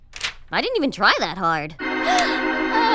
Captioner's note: fainting moan; gasps